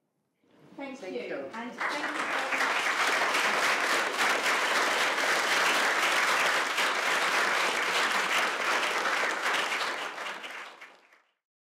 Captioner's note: applause